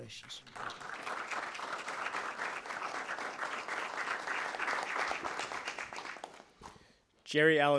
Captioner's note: applause